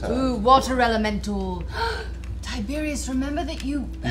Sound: gasps

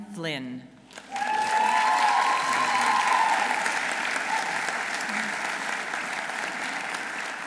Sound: audience applauding; audience cheering

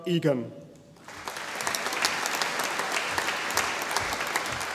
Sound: audience applauding

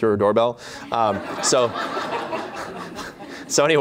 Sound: laughter

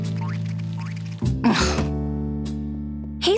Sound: groaning

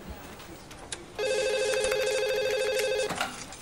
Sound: telephone rings

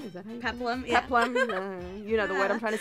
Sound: giggles

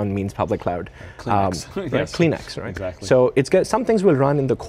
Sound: laughs

